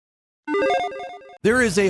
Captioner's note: logo beeps